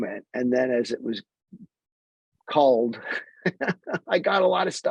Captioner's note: laughs